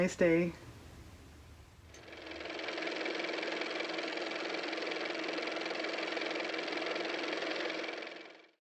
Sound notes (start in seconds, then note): 4.5 car motor